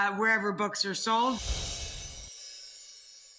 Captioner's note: air whooshing; cymbal vibrates